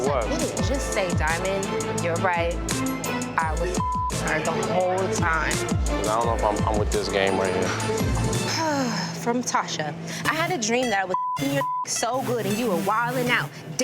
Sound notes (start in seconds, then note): 3.7 beep; 8.5 sighing; 10.8 beep